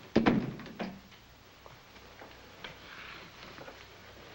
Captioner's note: door thuds shut